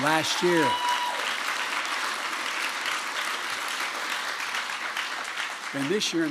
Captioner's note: applause